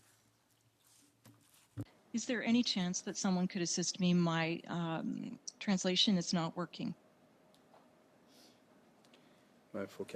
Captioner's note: speaking french